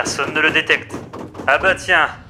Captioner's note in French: BAM* *BAM* métalliques